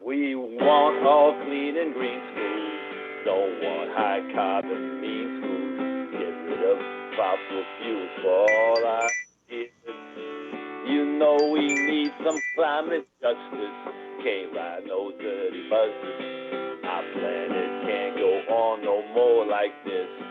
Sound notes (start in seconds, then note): 8.4 chime